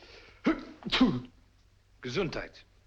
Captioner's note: sneezes